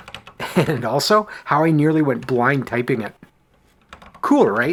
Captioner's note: chuckling